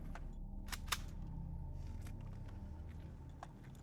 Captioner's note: gun cocking; soft tense music